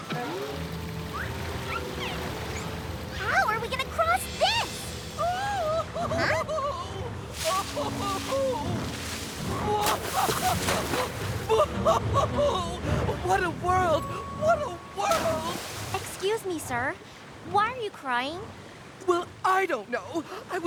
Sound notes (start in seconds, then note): 1.1 whistle! whistle! whistle!; 5.2 creature sobbing; 7.7 sobbing continues